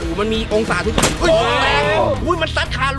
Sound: cheering

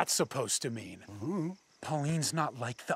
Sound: Kevin grunts

